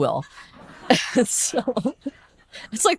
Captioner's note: audience laughing